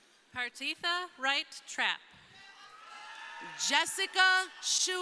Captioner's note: crowd cheering